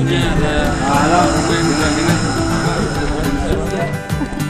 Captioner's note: komodo dragon sounds again